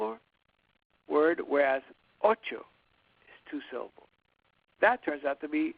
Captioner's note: speaks in foreign language